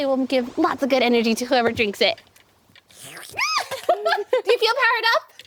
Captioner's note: slurping